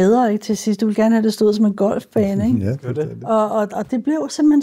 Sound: laughs

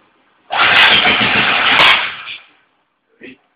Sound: reverse spark

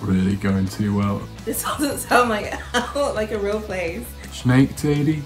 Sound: laughs

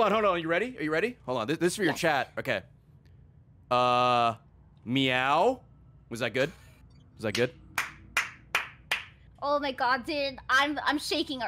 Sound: claps

